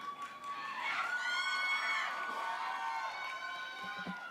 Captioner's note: applause